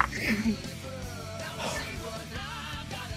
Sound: exhales

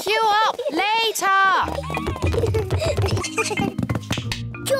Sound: both giggle

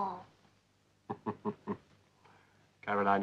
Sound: chuckles

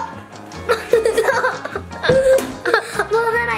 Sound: laughing

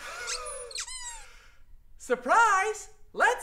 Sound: Jack squeaks

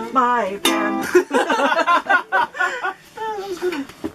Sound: laughter

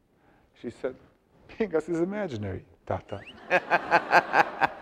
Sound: audience laughs; laughing

